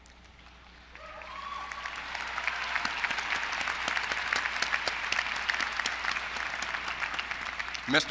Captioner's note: applause